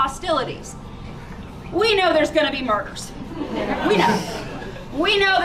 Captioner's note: laughter